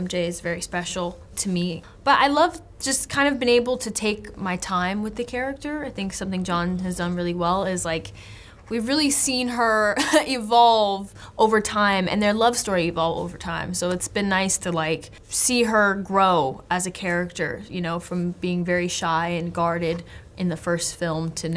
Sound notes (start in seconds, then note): none